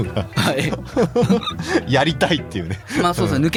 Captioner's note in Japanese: 笑い